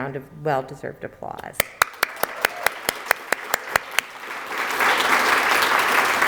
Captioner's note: applause